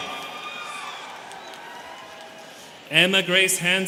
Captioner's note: students cheering